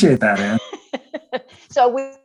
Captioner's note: laughs